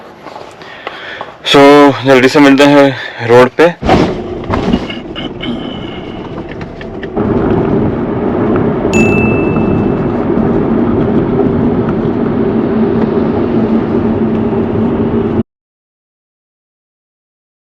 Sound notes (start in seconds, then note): 5.7 road noise